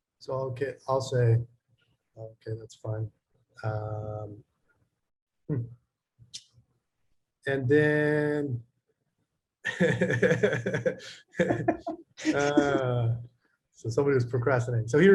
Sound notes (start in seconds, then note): 9.6 both laughing